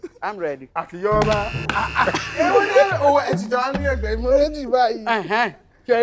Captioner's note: buzzer pressed